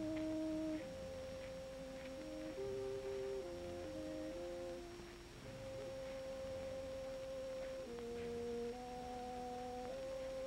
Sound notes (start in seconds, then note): none